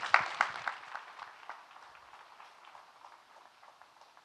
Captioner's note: audience clapping